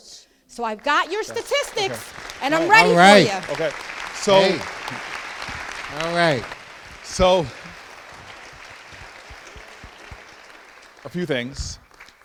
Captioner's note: applause